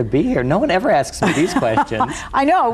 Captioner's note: laughs